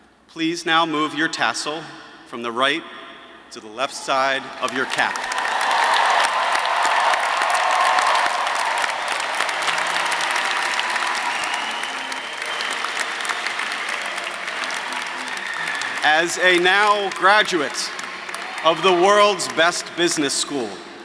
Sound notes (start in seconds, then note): 6.1 audience applauding; 6.1 audience cheering